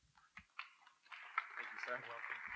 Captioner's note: applause